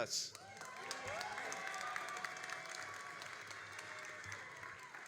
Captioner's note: all applauding and cheering